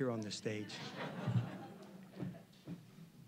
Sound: audience chuckling

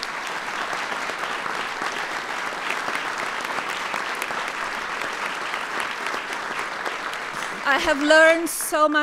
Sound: applause

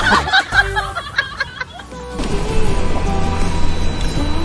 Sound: laughing

